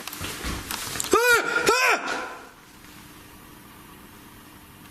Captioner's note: yelling